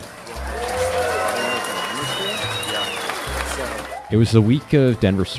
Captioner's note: crowd applauds